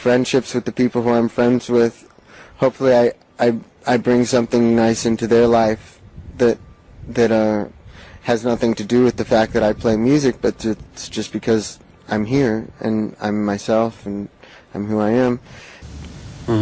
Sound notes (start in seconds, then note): none